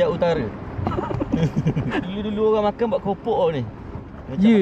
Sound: laugh

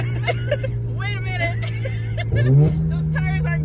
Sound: laughs; both laughs

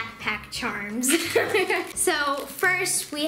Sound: laughs

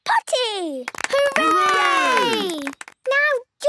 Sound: cheering, clapping

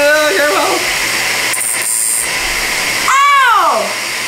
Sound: electrical grinding noises

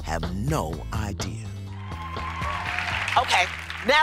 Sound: applause

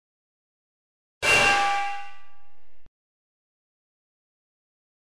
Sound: clanging sound

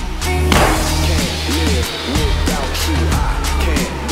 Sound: gunshot

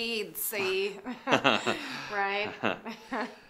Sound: awkward laughs

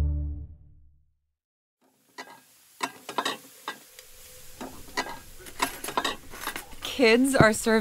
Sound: water rushing, dishes clattering

